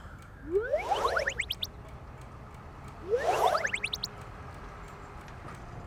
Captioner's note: phone notification sound